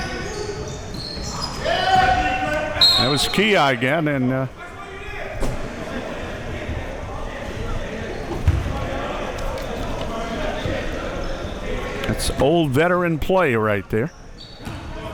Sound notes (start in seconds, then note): 0.1 audience chattering and yelling; 5.5 audience chattering